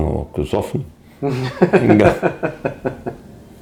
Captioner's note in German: lacht